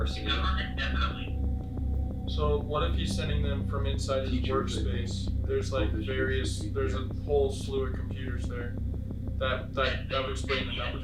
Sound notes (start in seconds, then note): none